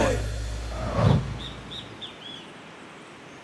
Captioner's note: bird chirping